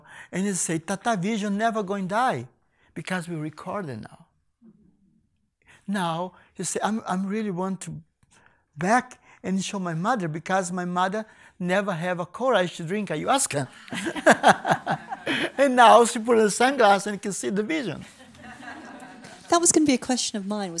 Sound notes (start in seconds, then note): 13.8 laughs; 17.7 people laughing